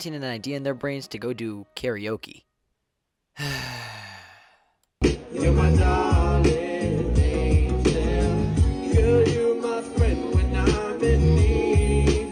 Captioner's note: sighes